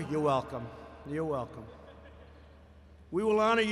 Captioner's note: laughter